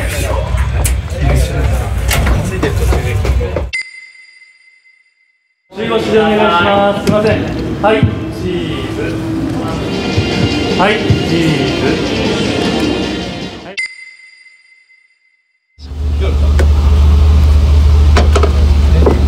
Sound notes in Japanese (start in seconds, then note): 3.7 ピックアップ 効果音; 13.4 ピックアップ 効果音; 15.8 車のエンジン音